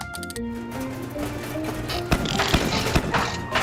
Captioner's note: dial clicking; heater rattling; heater sputtering